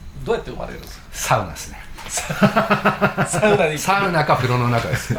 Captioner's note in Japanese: 笑い